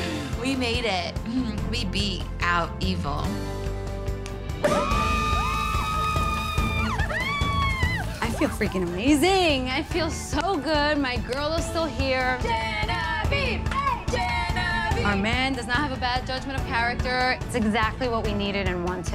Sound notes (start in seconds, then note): 4.6 cheering